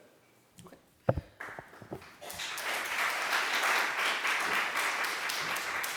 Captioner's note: applause